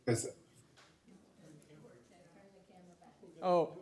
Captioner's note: woman speaks off mic